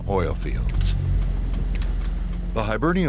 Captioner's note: airplane engine roaring